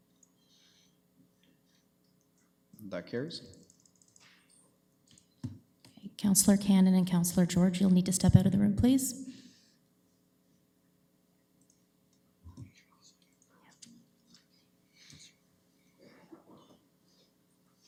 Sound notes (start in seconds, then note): 15.2 clerks whispering